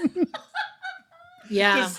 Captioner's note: laughing